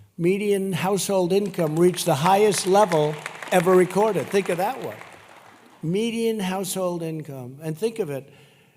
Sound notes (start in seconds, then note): 4.2 applause